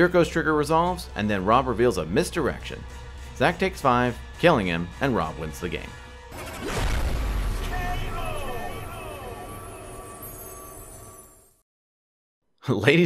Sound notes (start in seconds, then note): 6.3 bomb exploding; 10.9 dramatic music